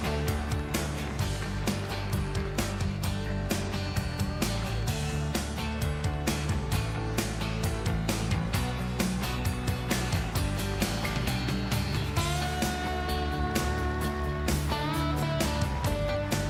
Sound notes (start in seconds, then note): 0.0 cheering and applause